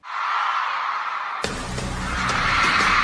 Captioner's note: crowd cheering; electric music